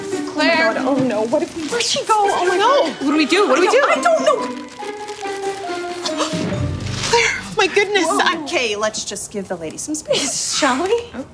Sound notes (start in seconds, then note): 3.8 more rustling; 4.6 more rustling as Claire emerges from a trash bag